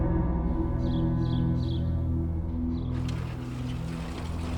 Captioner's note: birds chirp